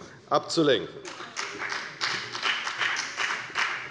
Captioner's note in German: Beifall bei der FDP